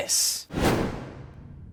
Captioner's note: thud!